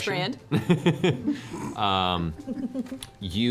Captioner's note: laughs